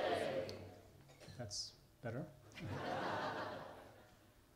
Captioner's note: laughter